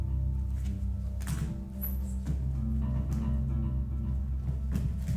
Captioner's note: footsteps thumping